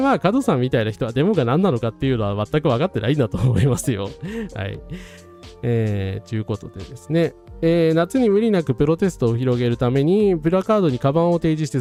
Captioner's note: laughs